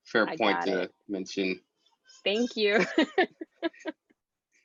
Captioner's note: laughs